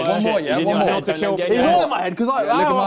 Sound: crowd mumbling

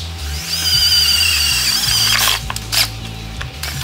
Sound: drilling

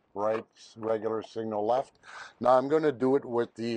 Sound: turn signal clicks

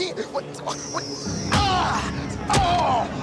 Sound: screaming; fist punching body; grunting

